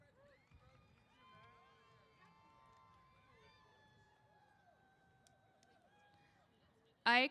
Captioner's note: cheers